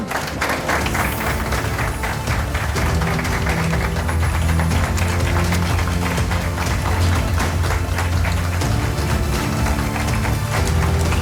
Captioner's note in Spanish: Aplausos